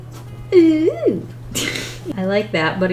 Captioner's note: laughs